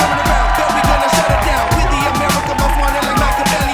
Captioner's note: rap music; crowd cheering